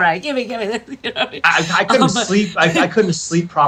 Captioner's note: laughs